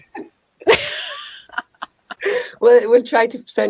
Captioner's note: both laughing